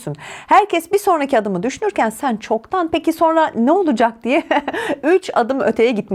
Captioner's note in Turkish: kahkaha